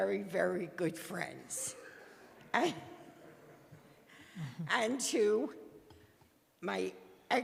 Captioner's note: laughter